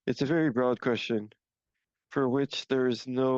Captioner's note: speaking French